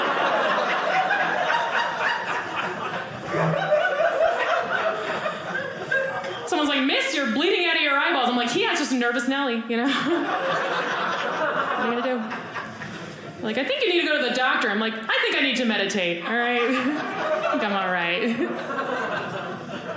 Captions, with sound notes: (audience laughing) Someone's like, "miss, you're bleeding "out of your eyeballs." I'm like, yeah. Just a nervous Nellie, you know. (audience laughing) Like, "I think you need to go "to the doctor." I'm like, I think I need to meditate, all right? I think I'm all right. (audience laughing)